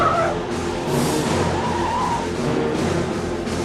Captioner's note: screaming